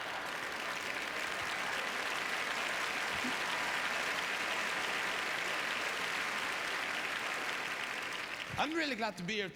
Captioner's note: applause